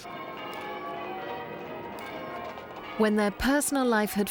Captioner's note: bells ringing